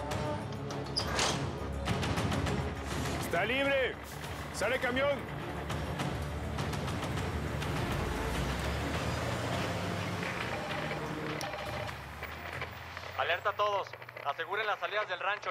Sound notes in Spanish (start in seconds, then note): 0.6 sonido al cerrar la puerta; 10.4 timbre de la radio; 12.8 voz en la radio